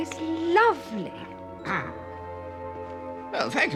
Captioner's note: Jeeves coughs